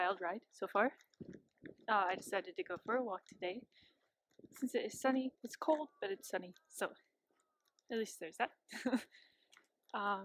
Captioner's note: laughs